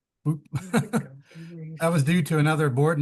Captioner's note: laughs